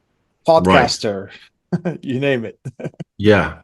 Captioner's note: laughs